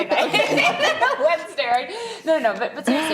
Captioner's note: laughing